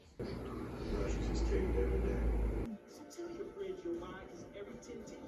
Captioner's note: tv noise